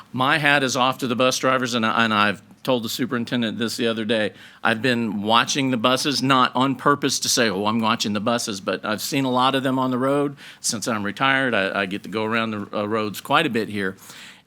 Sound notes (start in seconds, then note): none